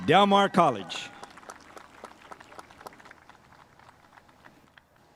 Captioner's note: spectators applauding